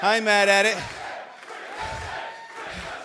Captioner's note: crowd cheering